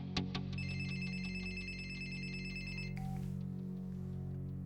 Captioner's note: phone ringing